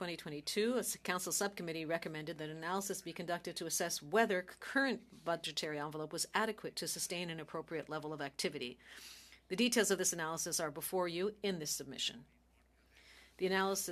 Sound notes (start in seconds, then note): 5.4 speaking French